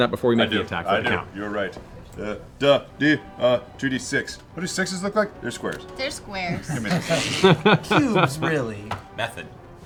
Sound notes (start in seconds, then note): 6.4 laughter